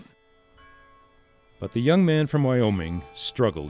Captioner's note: voiceover